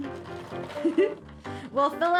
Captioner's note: giggles